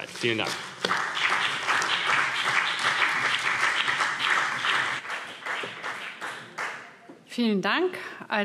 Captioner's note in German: Beifall BÜNDNIS 90/DIE GRÜNEN und vereinzelt CDU